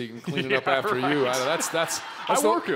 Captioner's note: laughing